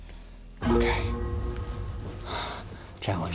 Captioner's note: exhales sharply